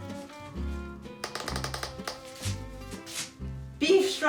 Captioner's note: door creaking